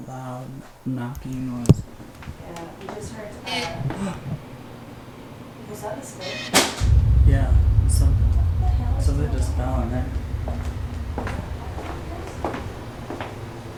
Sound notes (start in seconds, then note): 7.3 bang; 10.2 footsteps